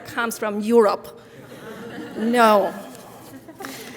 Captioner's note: audience laughing